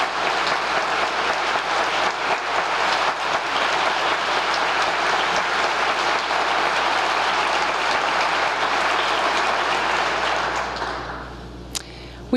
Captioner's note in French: applause